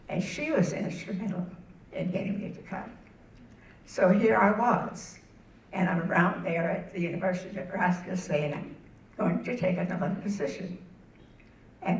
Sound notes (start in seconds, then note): none